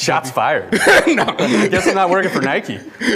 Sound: laughs

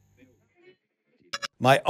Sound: digital blip

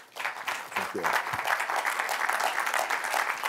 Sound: applause

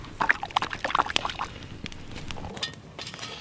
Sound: water lapping

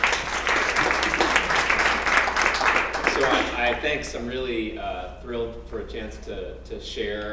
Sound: applause

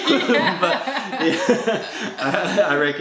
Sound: laughter

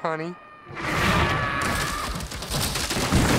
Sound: screaming

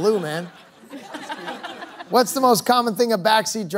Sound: laughter

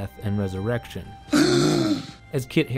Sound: Jon gasps

